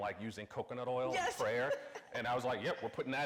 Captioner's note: laughs